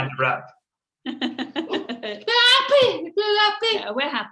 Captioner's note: interpreter laughs